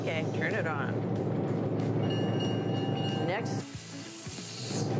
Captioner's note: bell ringing